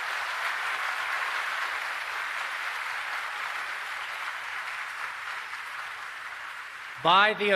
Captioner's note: applause